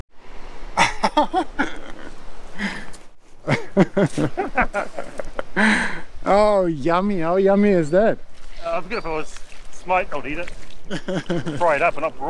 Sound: laughter

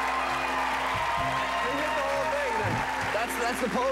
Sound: cheers and applause

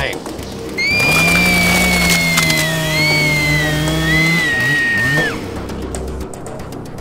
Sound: effeminate Screaming

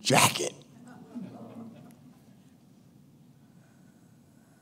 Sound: chuckling

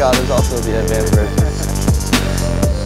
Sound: laughs; techno music

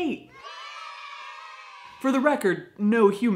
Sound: children cheering

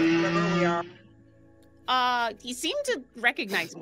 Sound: dinosaur roaring

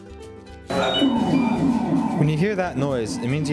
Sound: loud alert

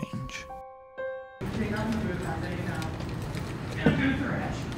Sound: music cuts, students talk loudly

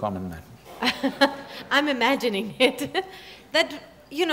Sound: laughs

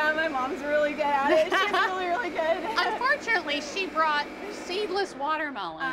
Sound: laughter

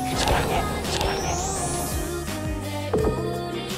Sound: whispering "I love you" in her ear

